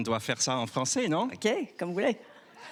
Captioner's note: speaking in foreign language